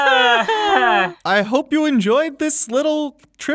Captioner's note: everyone laughs